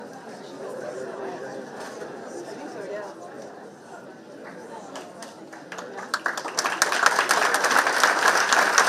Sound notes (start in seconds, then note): 0.0 participants indistinct chattering; 4.8 participants clapping